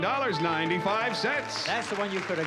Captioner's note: applause